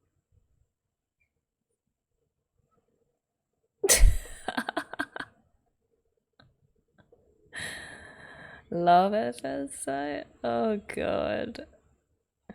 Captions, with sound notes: [laughs] 'Love at first sight.' Oh god.